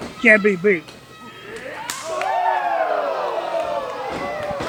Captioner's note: cheering